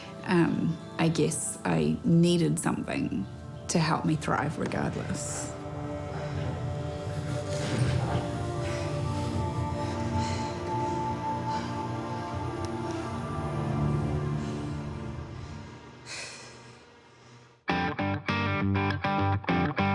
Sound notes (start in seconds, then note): 15.9 exhales; 17.7 upbeat rock music